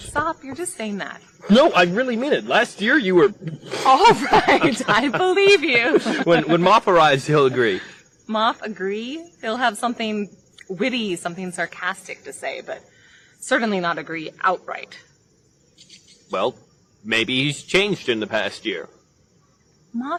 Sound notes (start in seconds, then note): 4.7 laughs